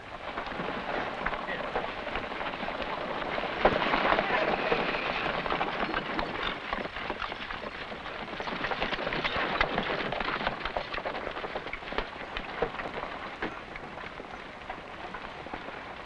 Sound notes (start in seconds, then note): 0.1 men chattering softly; 4.0 carts rattling